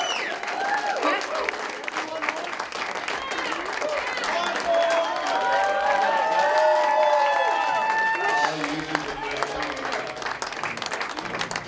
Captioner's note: applause; crowd